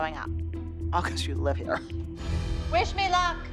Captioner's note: chuckles